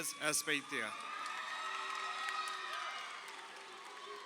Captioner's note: crowd cheering